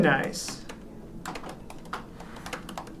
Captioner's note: typing